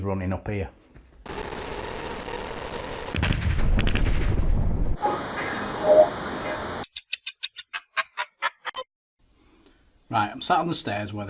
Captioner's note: sound FX